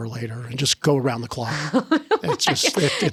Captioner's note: laughing